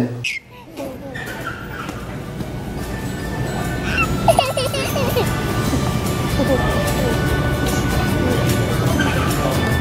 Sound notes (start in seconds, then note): 1.7 soft music; 3.7 giggling; 5.5 soft music